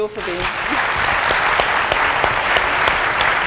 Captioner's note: applause